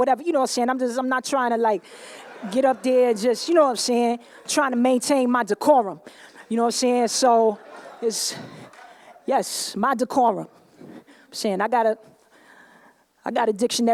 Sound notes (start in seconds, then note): 1.9 laughter